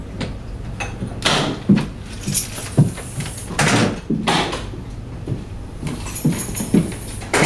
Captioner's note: door clicks; keys jingling